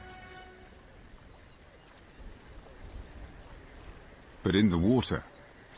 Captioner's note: birds chirping